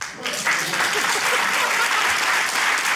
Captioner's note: applause